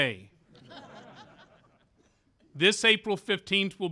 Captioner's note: laughter